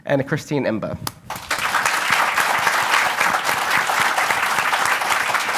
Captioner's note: audience applauding